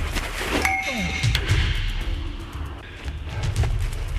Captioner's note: pipe clangs